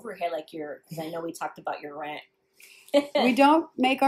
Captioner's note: laughs